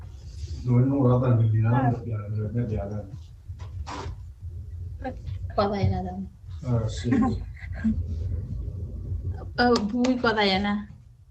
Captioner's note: foreign Language